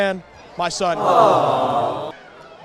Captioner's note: aww sound effect